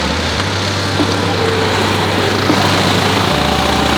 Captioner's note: engines roaring